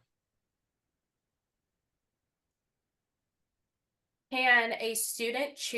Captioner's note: silence